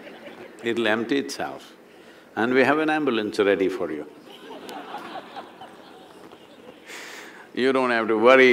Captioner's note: laughter; laughter